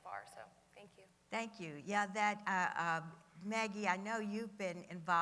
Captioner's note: none